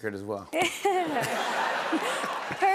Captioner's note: laughter